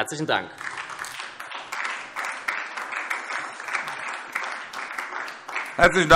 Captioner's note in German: Beifall SPD